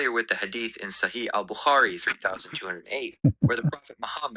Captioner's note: ketawa